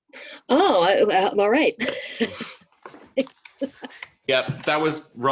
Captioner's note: laughs